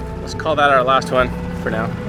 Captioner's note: bell chimes